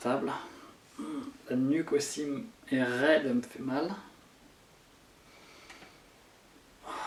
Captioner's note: deep breathings